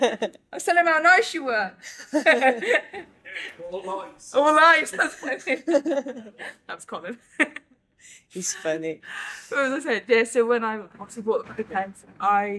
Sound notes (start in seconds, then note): 0.0 laughter; 1.9 laughs; 4.8 laughter; 7.6 laughs